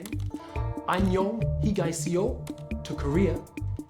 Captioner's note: speaking in foreign language